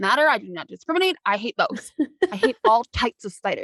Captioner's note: laughing